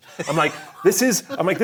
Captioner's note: laughing